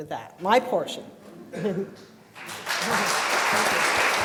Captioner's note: applause